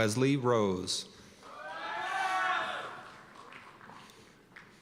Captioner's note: cheers and applause